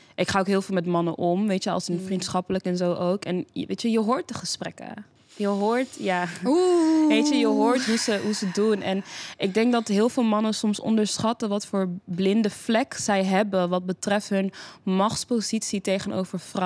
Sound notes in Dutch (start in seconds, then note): 6.4 ooohh.. *zucht